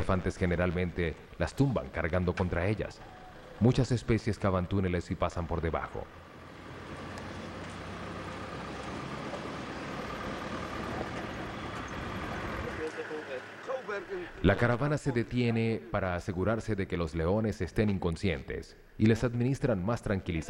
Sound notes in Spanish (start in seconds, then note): 7.5 sonido automotor; 15.3 murmullos